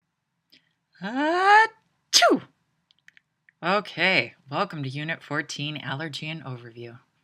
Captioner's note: sneezes